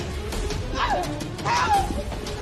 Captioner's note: gruntinnting